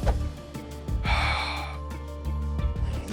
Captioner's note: sighs